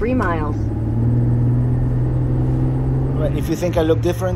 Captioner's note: car engine revving